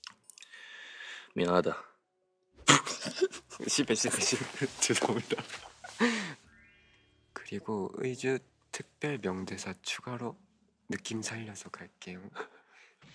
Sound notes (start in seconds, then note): 0.4 deep breath; 2.7 burst out in laughter